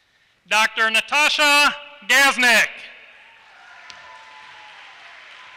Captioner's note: applause